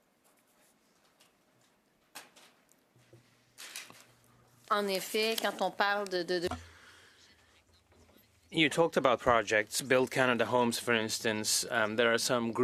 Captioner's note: speaking French